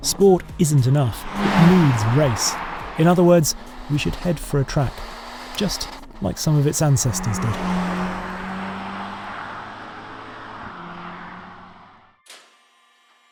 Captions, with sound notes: Sport isn't enough, it needs race. In other words, we should head for a track, just like some of its ancestors did. (engine rumbles)